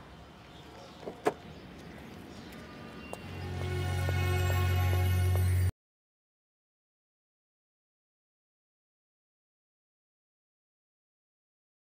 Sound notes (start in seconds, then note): none